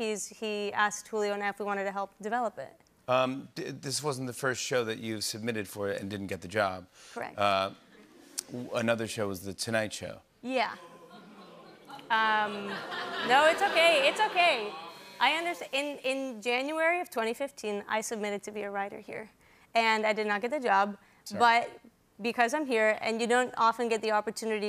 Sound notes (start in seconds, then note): 10.8 audience oohs